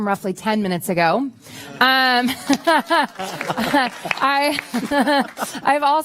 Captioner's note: laughter